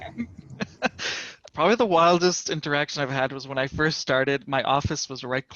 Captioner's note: laughter